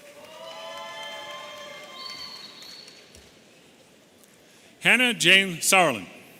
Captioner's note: audience whistling